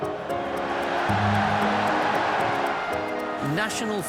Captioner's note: crowd cheering